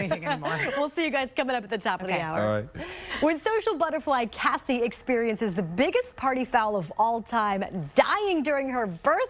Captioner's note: laughter